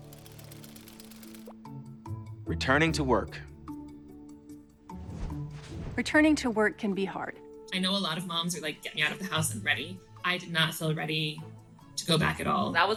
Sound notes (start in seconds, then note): 0.0 gears whirring; 0.1 bright music; 4.9 transition swooshes